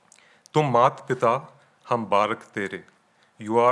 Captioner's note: speaking in foreign language